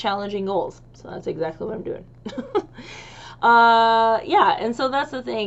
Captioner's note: laughs